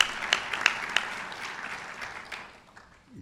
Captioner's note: applause